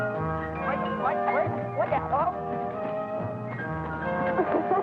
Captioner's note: Chris stammering; laughing